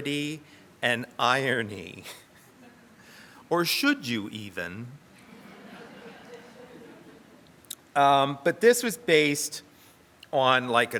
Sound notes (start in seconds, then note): 5.2 audience laughs